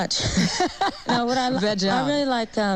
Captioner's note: laughs